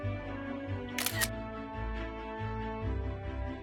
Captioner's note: camera shutter sound